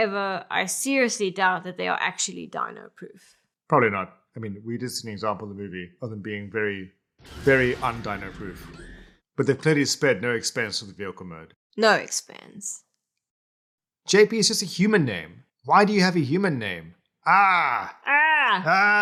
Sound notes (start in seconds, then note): 8.4 traumatic screams